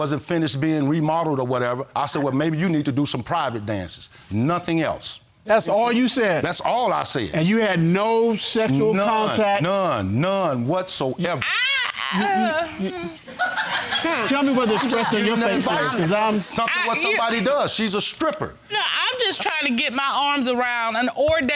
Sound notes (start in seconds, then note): 11.4 groans; 13.5 audience laughs